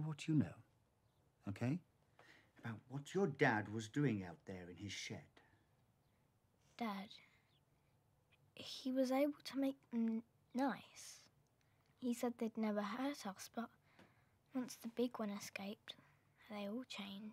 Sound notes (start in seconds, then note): none